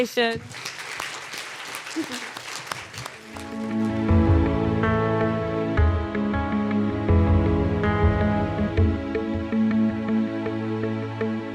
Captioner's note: applause